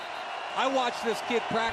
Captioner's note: whistle blows